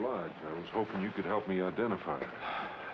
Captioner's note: sighs